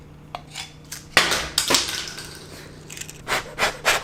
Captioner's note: lid rattling; shrimp chip clattering; air blowing